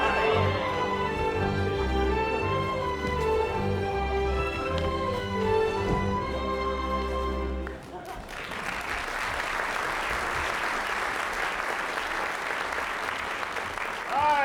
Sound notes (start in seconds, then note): 7.6 applause